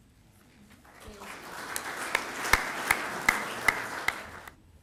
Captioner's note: clapping